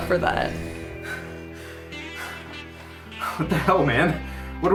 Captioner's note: heavy painful breathing